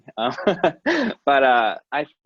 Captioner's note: laughing